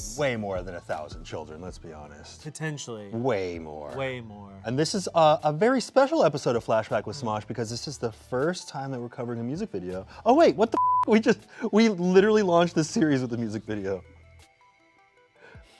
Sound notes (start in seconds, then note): 10.7 beep